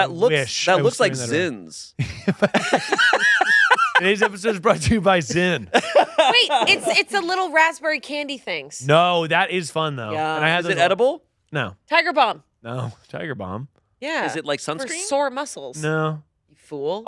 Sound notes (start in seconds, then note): 2.0 laughing